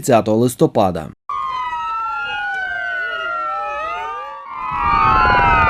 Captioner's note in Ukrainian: Лунає сигнал спецтехніки; Летить гелікоптер